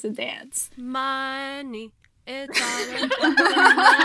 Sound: in a sing-song voice; hosts laugh

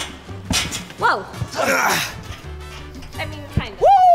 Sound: grunts

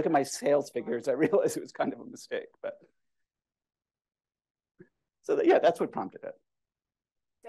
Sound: laughter

